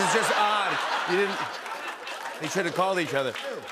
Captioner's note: laughter